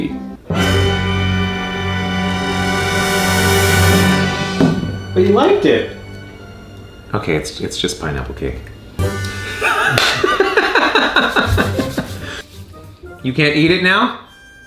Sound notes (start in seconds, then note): 0.3 intense music; 9.4 laughs